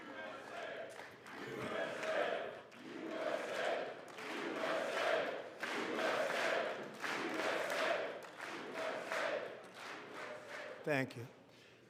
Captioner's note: audience chants "USA"